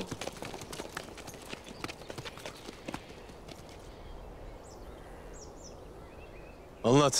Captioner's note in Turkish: Kuş Sesleri